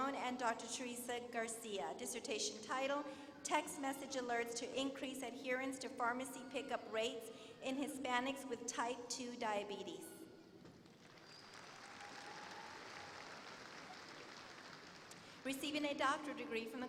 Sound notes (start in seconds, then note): 10.7 applause